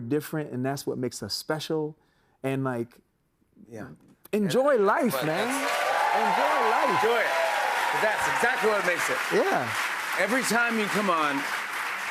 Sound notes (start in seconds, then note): 8.3 cheers and applause